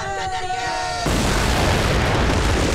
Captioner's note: Explosion